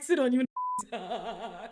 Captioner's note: beep